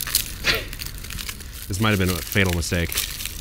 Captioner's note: chuckles